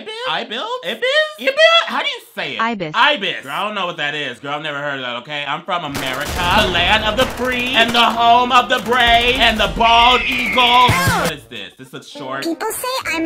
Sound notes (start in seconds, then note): 5.9 gunfire clacking; 10.0 eagle screeches